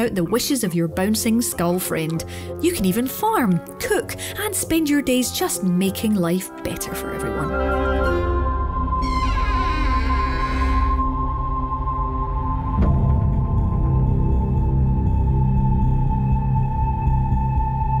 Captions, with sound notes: out the wishes of your bouncing skull friend. You can even farm, cook, and spend your days just making life better for everyone. [Door creaks] [Eerie music]